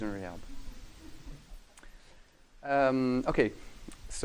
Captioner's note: laughing